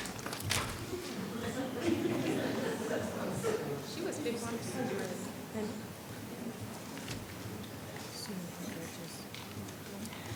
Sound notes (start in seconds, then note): 0.9 attendees laughing; 5.9 speaking faintly